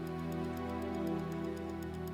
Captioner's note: ticking clock